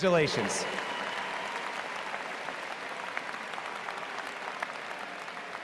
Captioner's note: cheering